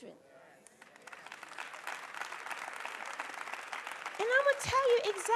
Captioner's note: applause